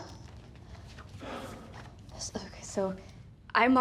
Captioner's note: Aunspach sighs